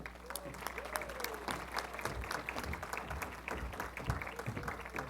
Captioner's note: applause